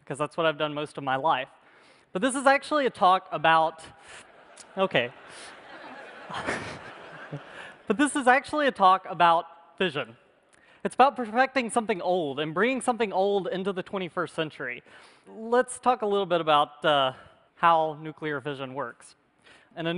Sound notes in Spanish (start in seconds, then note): 4.2 Risas